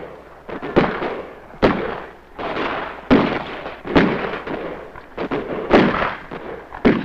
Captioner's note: guns blasting; explosions booming